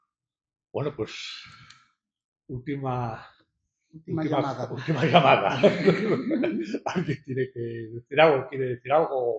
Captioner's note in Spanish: risas